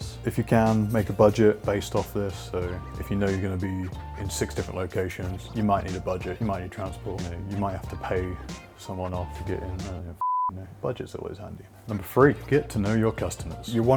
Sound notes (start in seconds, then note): 10.2 beep